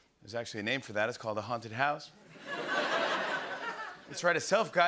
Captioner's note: laughter